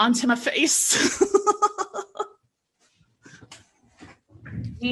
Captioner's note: laughs